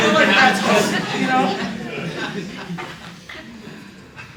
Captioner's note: laughter